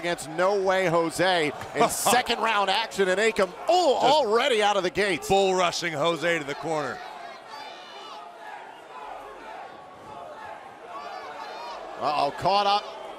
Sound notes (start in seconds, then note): 6.6 crowd cheering